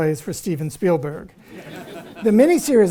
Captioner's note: audience laughs